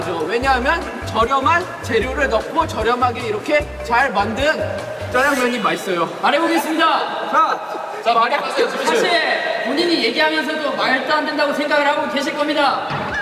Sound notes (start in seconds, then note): 7.2 kekekeke